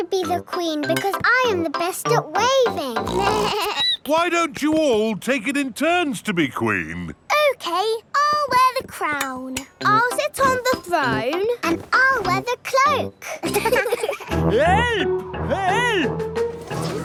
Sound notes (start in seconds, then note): 3.0 snorts; 3.1 bleats; 13.3 laughing